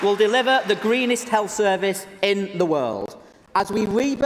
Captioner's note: applause